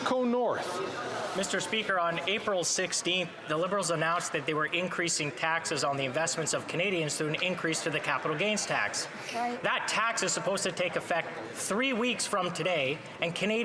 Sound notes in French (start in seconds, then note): 4.9 voix de l'interprète